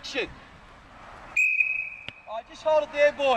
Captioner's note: blows whistle